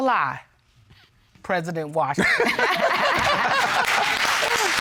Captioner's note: all laughing